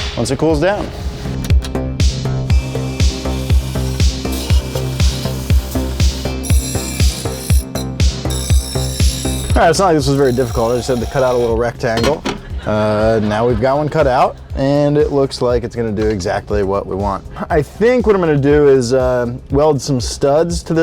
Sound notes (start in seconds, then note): 1.5 upbeat music; 2.0 sander buzzing; 6.4 metal clanging